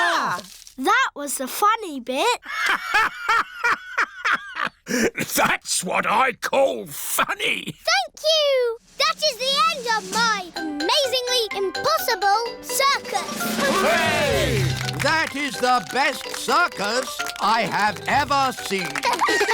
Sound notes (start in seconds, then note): 3.8 laughs